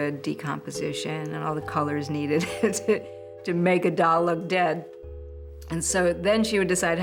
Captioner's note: laughs